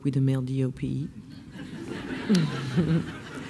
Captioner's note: laughs